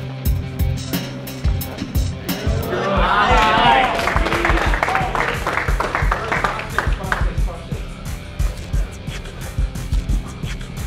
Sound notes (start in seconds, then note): 1.6 chattering; 3.1 clapping